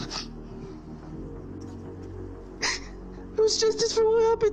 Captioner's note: sobs